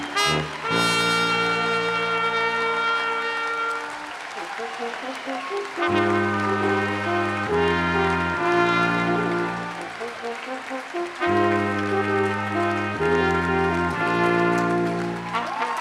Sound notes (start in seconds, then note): 0.0 applause and cheering; 0.0 brass Quintet plays; 3.6 applause and cheering; 3.6 brass Quintet plays